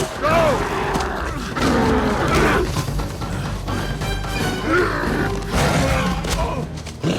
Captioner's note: roaring and grunting